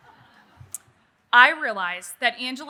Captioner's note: audience laughing